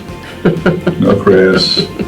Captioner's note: woman laughing